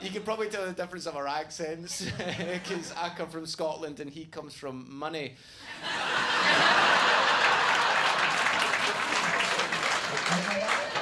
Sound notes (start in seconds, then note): 2.3 laughing; 5.7 audience laughing and clapping